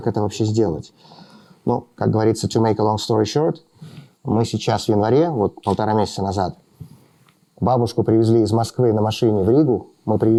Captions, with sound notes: To make a long story short, [SPEAKING RUSSIAN]